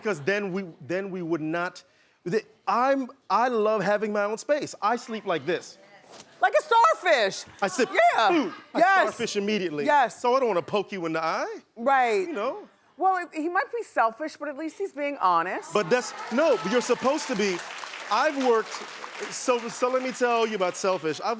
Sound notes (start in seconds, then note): 15.9 clapping